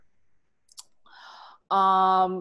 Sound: clicks tongue

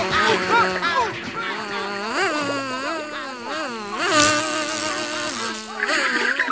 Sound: buzzing

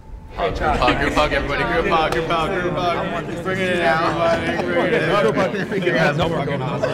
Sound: everybody talking amongst themselves

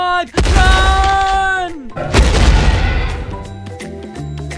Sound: dinosaur roaring; crashing footsteps

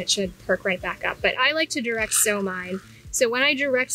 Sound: seeds rattling

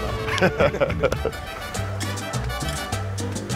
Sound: laughs

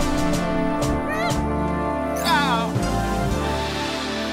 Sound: squeals

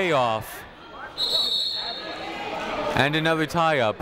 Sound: whistle tweeting

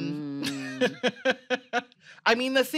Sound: laughs

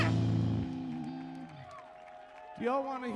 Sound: crowd cheering

